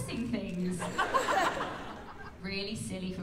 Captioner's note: laughter